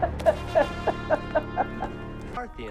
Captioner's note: laughter